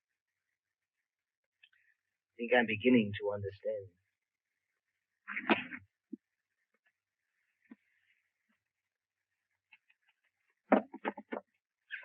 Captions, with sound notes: I think I'm beginning to understand. (gentle rustling)